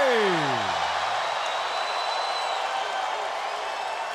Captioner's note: audience cheering